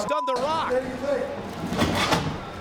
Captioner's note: beep